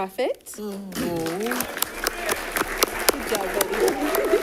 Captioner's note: audience applauding